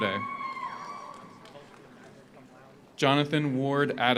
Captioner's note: audience cheers; audience applauds